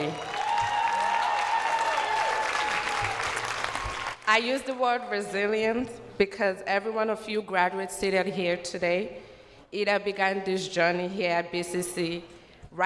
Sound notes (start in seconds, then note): 3.6 cheers and applause